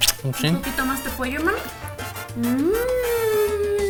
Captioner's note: speaking in foreign language; salsa music